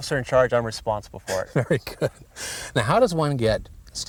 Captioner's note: chuckles